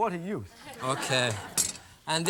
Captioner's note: laughter